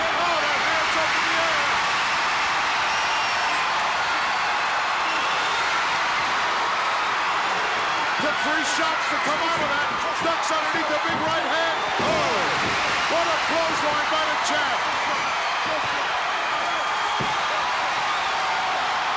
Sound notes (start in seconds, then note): 2.4 crowd cheers; 12.7 commentators exclaim; 16.2 crowd cheering